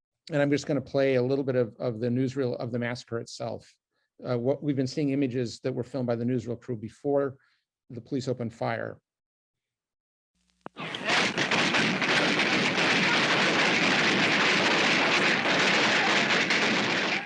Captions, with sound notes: And I'm just gonna play a little bit of, of the newsreel of the massacre itself. What we've been seeing images that were filmed by the newsreel crew before the police opened fire. (rapid, dense, extended volley of shooting)